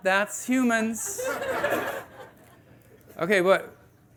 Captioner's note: audience laughing